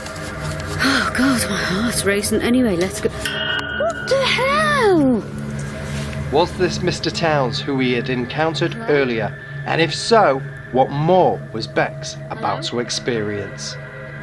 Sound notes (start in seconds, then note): 3.2 railing ringing